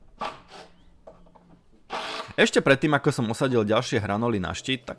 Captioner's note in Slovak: smrkanie